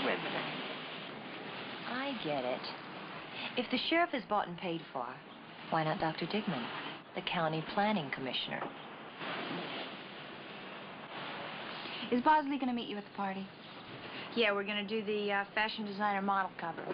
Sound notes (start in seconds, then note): none